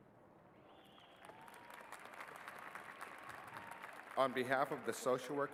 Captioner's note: cheers and applause